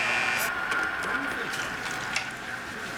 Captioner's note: Buzz, crowd cheering